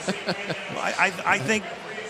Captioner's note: laughs